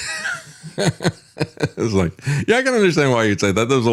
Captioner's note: laughs